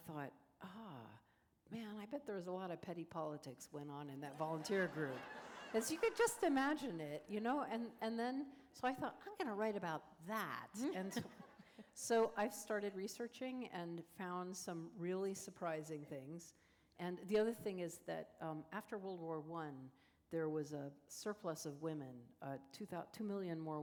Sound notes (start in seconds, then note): 4.4 laughter; 10.9 laughter